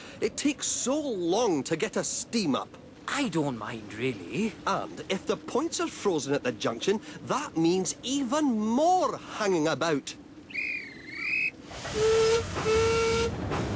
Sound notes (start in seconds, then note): 10.5 guard's whistle blows; 12.1 duncan whistles